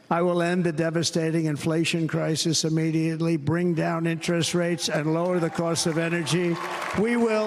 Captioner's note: applause